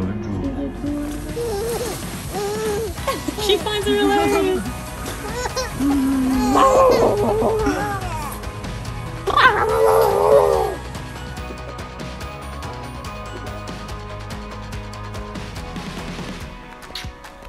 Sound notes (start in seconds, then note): 1.1 baby laughing; 2.6 laughs; 5.0 baby laughing; 8.3 lively music